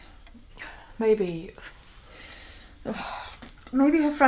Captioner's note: sighs